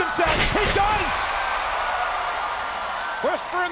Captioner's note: spectators cheering